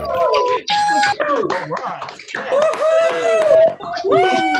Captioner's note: applause